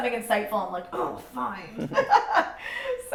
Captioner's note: laughs